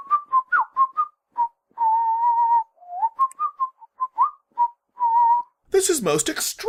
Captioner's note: whistles